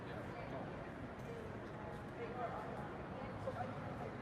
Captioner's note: people chattering